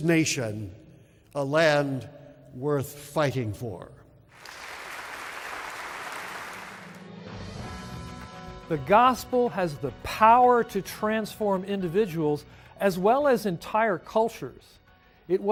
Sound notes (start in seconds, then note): 4.3 applause